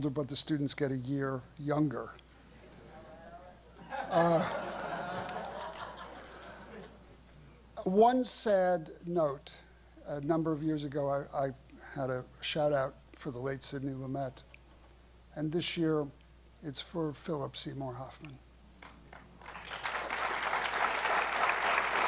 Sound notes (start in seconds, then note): 3.7 laughter; 18.8 applause